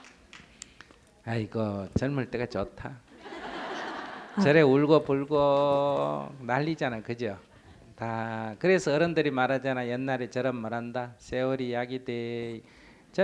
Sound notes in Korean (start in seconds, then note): 0.0 청중 박수; 3.2 청중 웃음